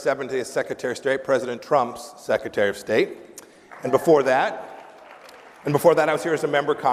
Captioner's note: applause